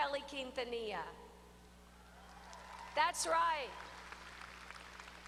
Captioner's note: applause